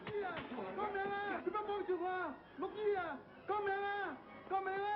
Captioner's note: speaking foreign language